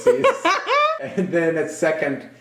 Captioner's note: laughing